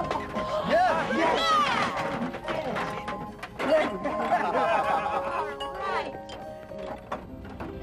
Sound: cheering

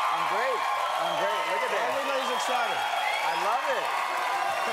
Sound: cheers and applause

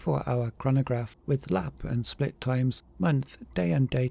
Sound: watch beeps

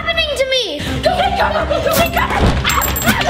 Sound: yelling

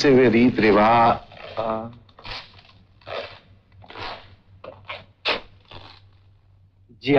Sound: shoes squeaking

